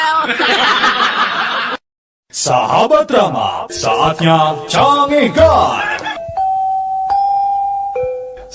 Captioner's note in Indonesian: tertawa